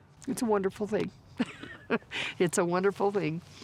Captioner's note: chuckles